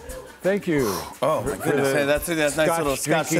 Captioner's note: exhales; stammering